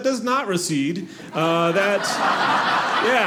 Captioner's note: audience laughing